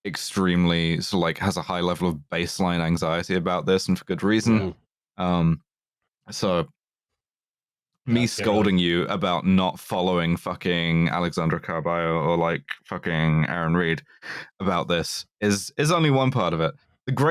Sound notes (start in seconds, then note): 4.4 soft sounds of agreement